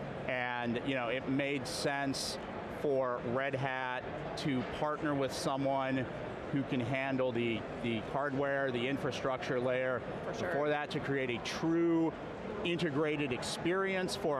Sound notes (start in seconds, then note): none